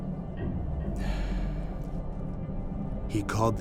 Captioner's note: gasps